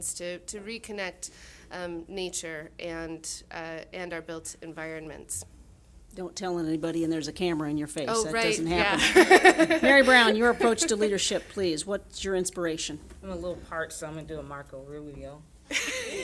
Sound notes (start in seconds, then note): 8.9 laughing